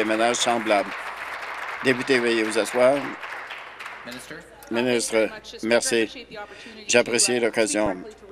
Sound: applause

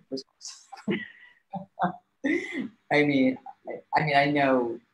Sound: laughing

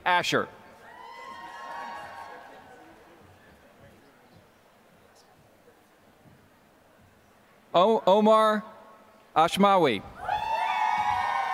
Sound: applause

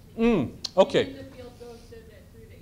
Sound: voiceover

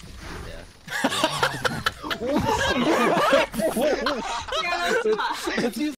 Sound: laughter

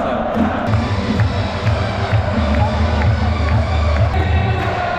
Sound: clapping hard because it's the last episode 9

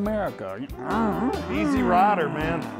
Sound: imitates motorcycle engine revving

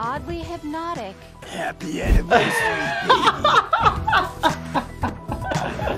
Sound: laughing

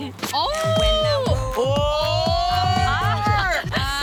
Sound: cheering

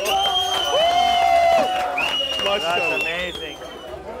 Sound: clapping and cheering

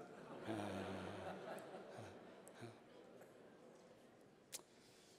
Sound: laughter

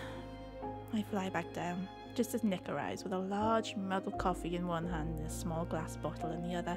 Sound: sigh

